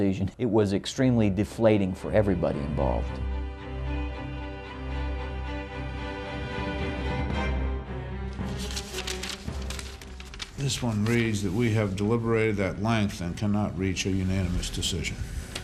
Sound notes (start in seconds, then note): 2.2 suspenseful music; 8.3 papers shuffling